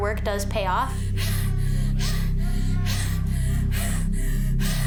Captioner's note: wheezes